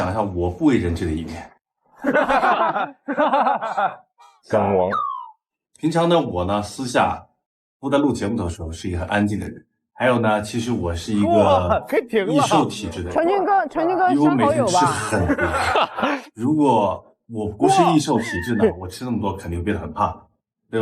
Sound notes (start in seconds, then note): 2.0 hahaha